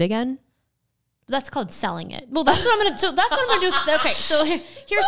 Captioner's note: laughs